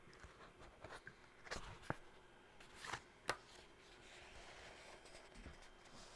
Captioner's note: turning pages and paper sounds